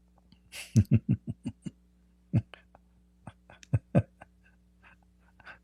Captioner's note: Ketawa